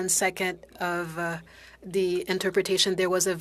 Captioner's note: speaking in French